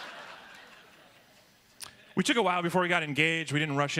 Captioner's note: laughter